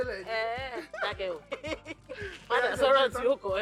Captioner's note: laughs